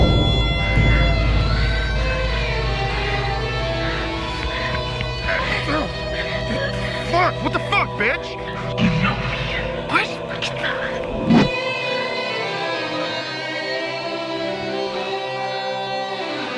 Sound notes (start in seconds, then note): 0.2 sexy Guitar Music Continues; 4.3 grunting in Pain; 8.4 demonic Voice